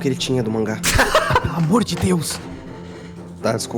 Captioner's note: laughs